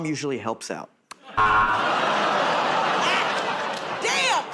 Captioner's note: buzzer